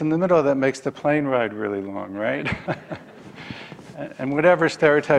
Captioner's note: laughs